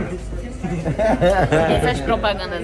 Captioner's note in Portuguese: risos